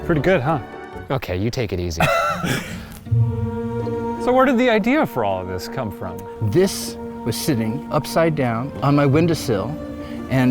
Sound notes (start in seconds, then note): 2.0 laughing